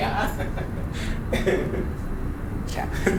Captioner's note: laughing